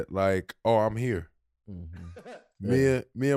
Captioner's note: Rel laughing